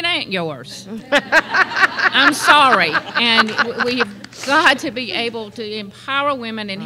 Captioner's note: laughter